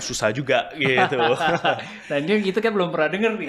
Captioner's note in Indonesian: tertawa